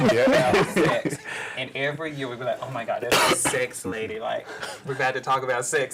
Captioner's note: laughter